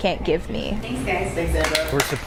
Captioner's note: applause